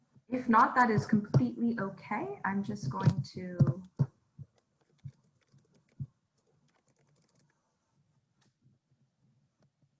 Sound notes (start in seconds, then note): 6.3 keyboard typing